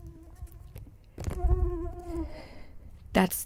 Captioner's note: mosquito buzzing